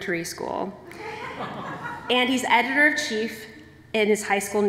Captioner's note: laughter